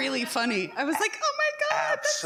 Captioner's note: mocking tone